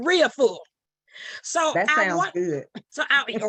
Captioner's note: chuckles